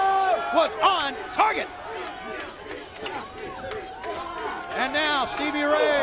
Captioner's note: crowd chatter